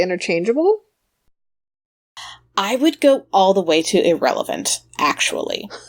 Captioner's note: sighs; laughs